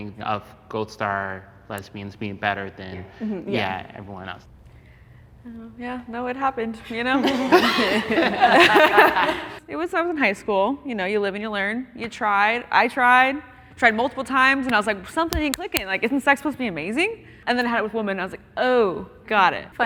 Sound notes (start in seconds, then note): 7.1 contestants laughing